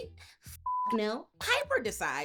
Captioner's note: beep